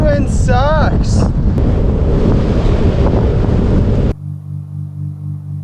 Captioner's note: wind blowing; quiet pensive music